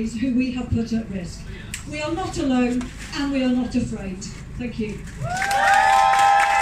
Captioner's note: cheering. clapping